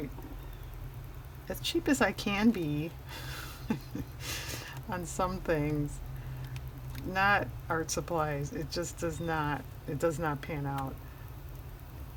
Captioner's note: laughs